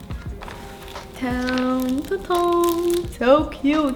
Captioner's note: humming